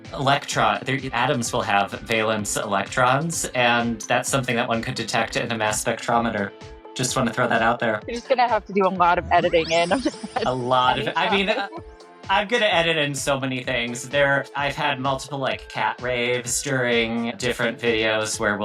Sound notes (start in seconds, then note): 9.4 email surging; 9.4 laughs